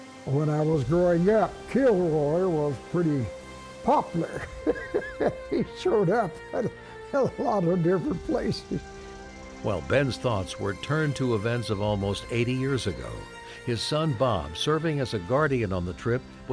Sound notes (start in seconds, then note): 4.0 laughs